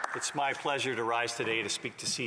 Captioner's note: some Applause